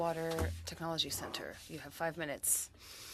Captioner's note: speaking French